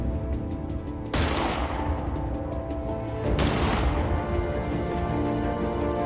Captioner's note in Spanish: Disparo